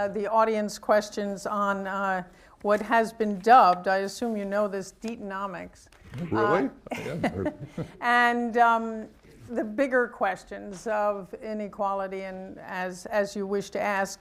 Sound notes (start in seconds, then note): 6.1 laughs